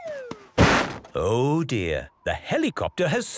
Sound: bangs

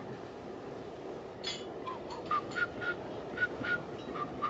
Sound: whistles

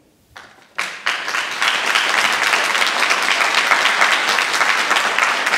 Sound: audience applauding

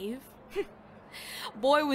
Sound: inhales

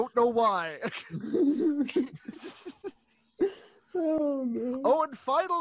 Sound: laughter

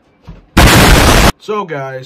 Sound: explosion

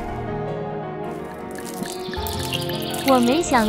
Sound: water hitting floor; pouring from bottle; birds chirping

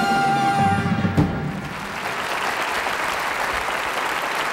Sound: audience applauding

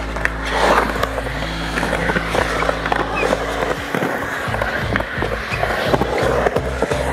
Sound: whooshing noise; upbeat music

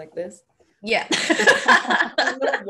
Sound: laughing

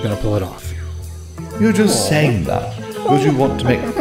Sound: ape noises

